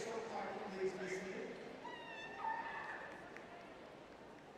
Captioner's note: cheering